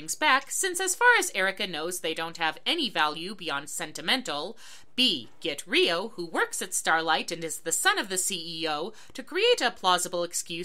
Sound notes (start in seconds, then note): none